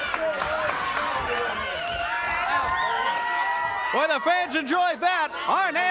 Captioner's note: crowd cheering